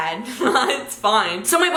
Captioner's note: giggles